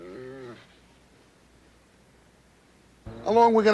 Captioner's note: rattle